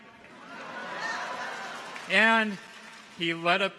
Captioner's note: audience laughs; clappers clack